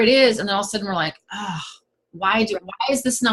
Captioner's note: sigh